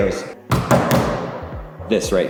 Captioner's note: hand slamming